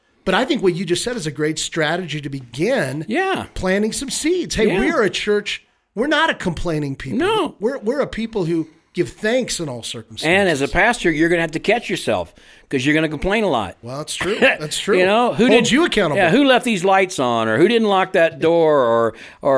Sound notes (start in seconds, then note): 14.2 chuckles